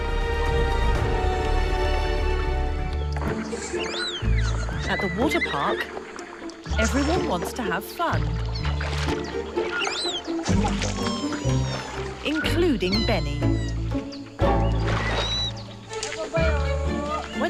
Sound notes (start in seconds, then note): 0.1 intense music; 3.3 bright upbeat music; 8.7 water rustling; 9.2 Beni squeaking; 14.4 bright upbeat music